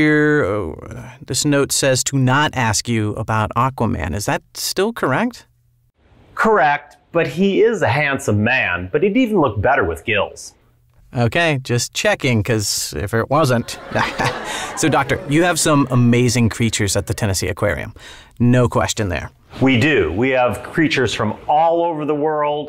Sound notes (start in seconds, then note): 13.6 laughter